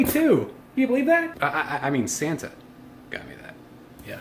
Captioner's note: stammers